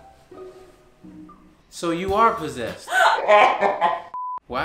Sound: laughs

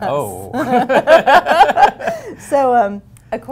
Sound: laughter

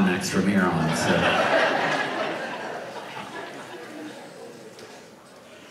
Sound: audience laughs

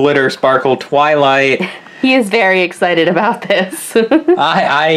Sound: laughs

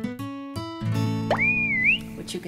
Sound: whistle

